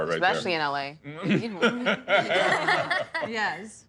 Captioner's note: laughter